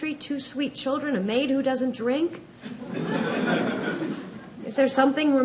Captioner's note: audience laughs